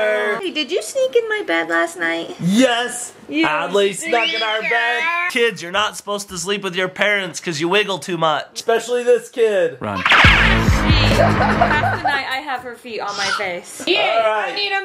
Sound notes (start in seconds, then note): 4.0 screams; 10.6 scary cello music; 10.7 laughs